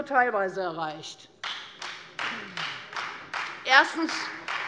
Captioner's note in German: Beifall Freie Demokraten